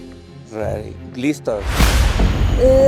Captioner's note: aldo, in english